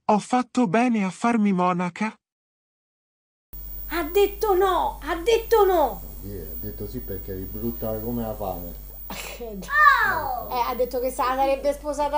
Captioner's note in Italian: risate